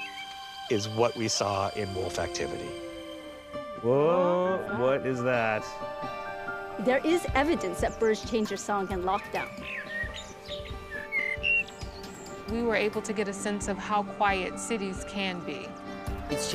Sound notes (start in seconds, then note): 10.2 bird calling